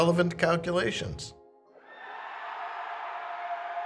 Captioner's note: cheering